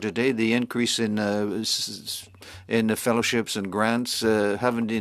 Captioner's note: speaking French